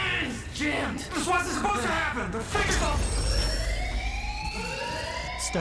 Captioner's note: a massive alarm starts to ring